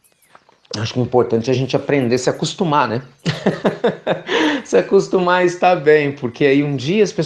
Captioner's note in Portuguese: Risos